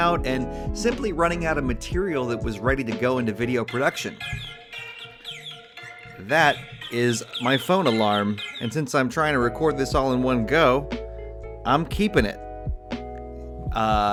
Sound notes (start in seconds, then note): 3.6 phone alarm ringing